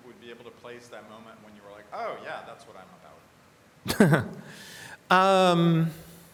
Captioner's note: laughs